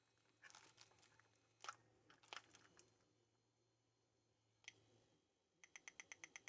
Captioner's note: typing